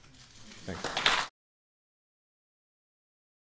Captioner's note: applause